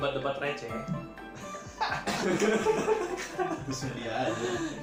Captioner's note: laughs genuinely